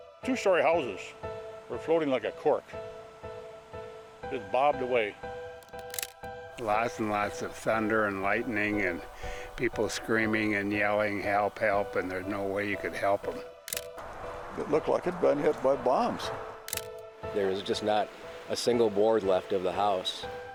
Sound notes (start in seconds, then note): 13.6 camera snapping